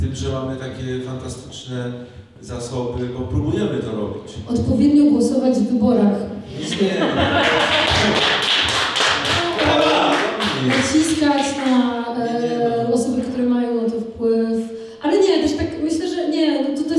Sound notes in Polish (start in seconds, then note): 7.4 oklaski